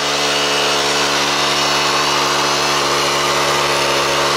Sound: machine roaring

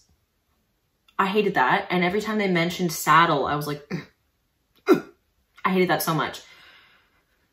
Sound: gags

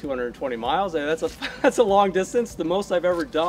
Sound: laughs

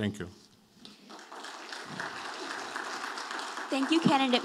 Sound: audience applauding

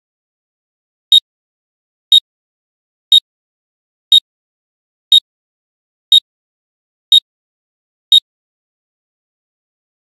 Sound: beep

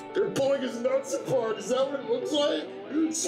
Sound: still yelling

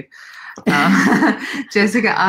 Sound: laughing

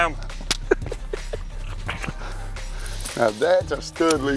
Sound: laughs

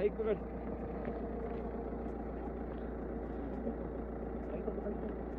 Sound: vehicle approaching

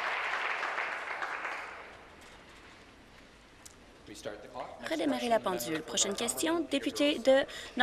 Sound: applause

